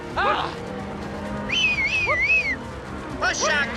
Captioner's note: whistling